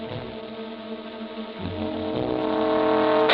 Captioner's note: gunshot